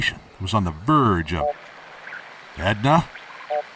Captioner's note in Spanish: Beep de rastreo